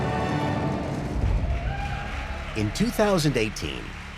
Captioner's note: cheers and applause